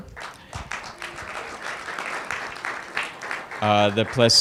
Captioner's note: applause